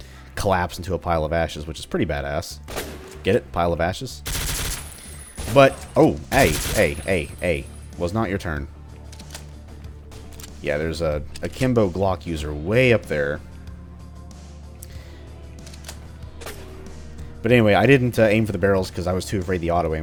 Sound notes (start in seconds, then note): 7.8 MAC-10 burst